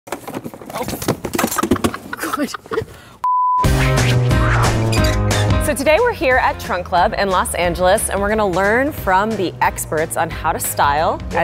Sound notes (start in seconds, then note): 0.1 boxes crashing; 1.6 laughs